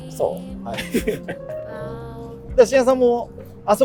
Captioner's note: laughing